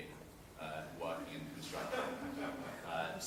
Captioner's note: laughter